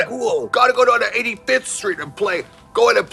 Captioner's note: new York accent